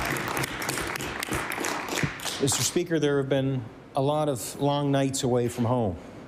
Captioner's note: applause